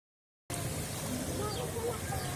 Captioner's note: sound of waves rushing to the shore